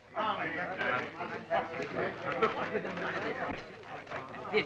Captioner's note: group chattering